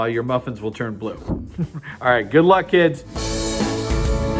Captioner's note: laugh